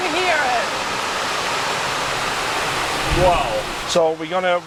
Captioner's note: rain whooshing